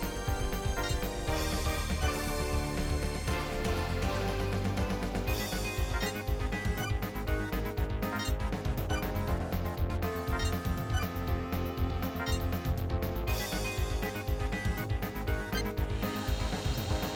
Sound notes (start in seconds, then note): none